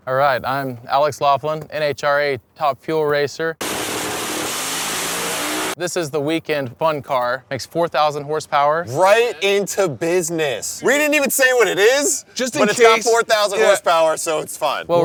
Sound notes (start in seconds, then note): 3.6 car hissing and buzzing